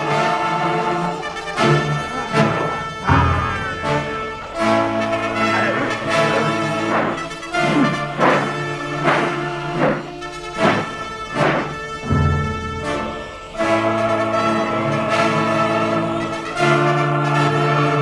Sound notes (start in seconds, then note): 3.3 baby crying; 7.3 dramatic choir music; 7.3 sword whooshing